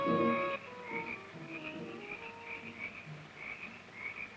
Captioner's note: insects chirping